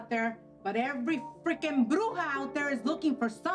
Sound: speaks in foreign language

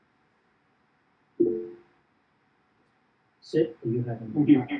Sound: computer chimes

